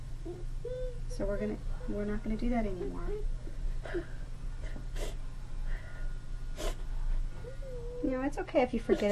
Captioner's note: sniffles